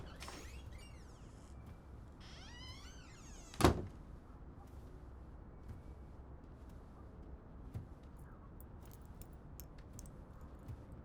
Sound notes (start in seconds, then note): 0.2 door creaks; 2.2 door closes